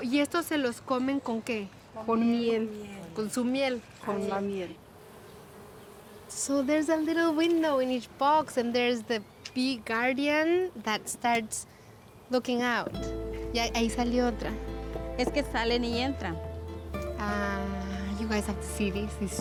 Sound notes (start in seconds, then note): 4.9 buzzing; 12.9 speaks Spanish